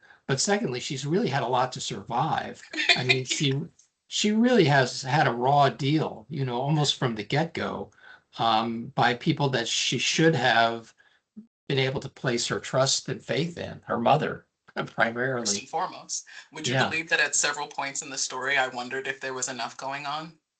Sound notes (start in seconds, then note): 2.7 laughing